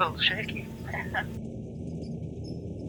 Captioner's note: laughing